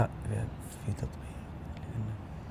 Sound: murmurs

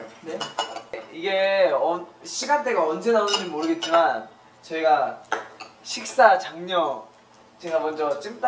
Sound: stirring

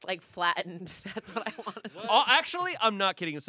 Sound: laughs

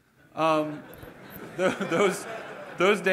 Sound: laughter

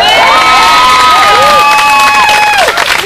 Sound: cheers and clapping

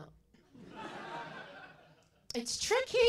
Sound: laughter

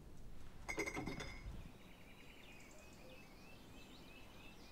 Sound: birds chirp

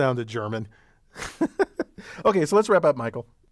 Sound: laugh

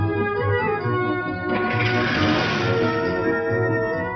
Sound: engine sputters

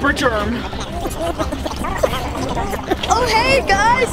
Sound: germs gibbering

